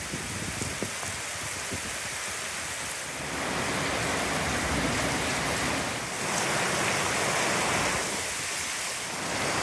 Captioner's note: loud rain